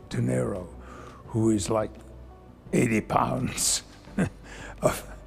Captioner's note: chuckles